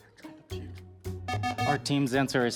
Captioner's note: times-Up Buzzer